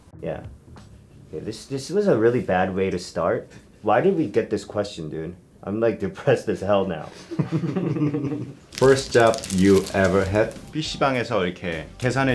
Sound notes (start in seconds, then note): 7.2 all laughing